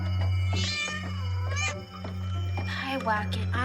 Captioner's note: cat screeching